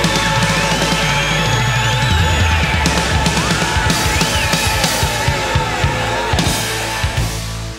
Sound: audience cheers

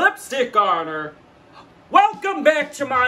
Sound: gasps

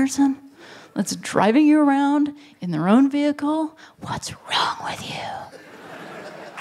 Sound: whispering; laughter

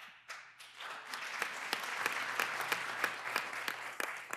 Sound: applause

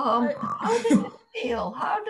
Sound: laughing

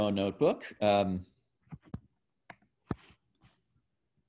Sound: typing

